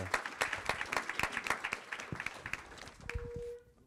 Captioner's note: applause